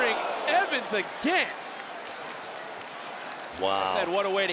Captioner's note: crowd cheers